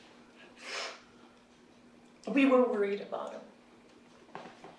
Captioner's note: sniffles